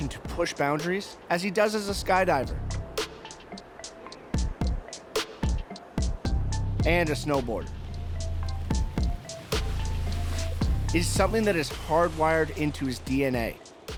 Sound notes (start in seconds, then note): 3.7 wind noise; 8.5 sounds of snowboarding